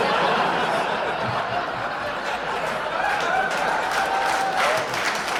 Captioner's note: audience applauding